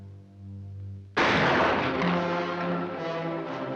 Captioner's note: gun fires; dramatic music